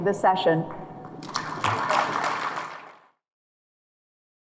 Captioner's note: audience claps